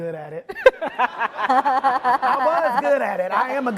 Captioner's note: laughing